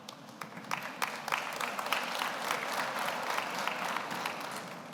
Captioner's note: audience applauds